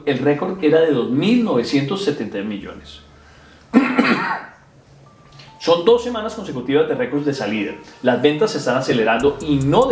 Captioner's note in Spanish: carraspeo